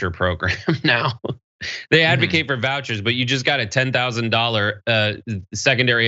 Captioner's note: laugh